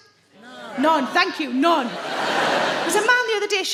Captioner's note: audience laughs